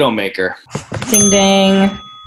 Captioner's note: ding